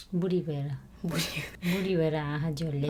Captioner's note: laughing